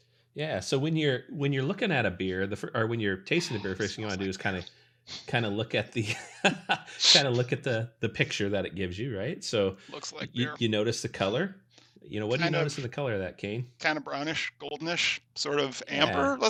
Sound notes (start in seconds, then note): 6.3 laughs